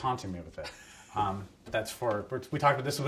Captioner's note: laughs